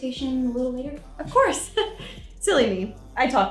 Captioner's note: laughs